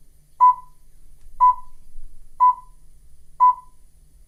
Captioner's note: 6 o'clock pips